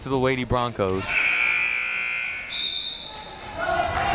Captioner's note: buzzer